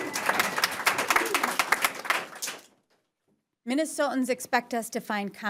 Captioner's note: applause